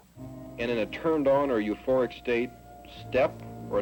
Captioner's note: voiceover